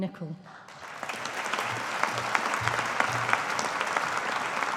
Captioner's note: audience applauding